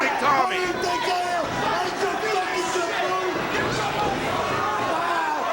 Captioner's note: wrestler vocalizing